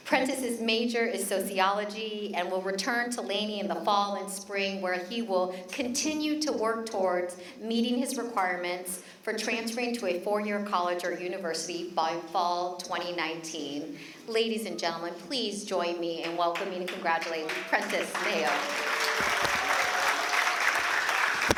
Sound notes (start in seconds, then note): 17.1 applause